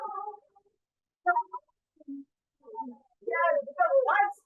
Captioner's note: device beeping